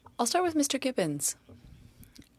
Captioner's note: speaking French